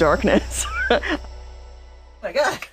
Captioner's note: laughs